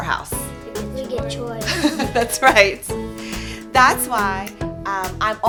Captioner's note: laughing